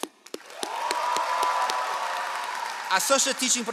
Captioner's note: all applauding